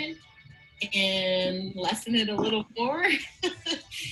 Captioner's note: laughing